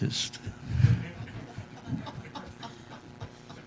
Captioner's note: laughs